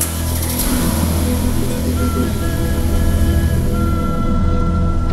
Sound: engine starts and revs

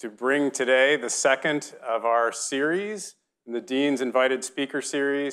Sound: none

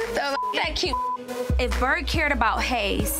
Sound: beep

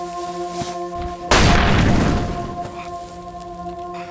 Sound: grenade explosion!

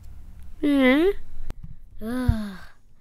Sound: sigh

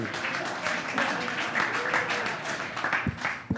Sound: applause

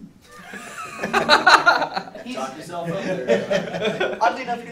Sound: laughing

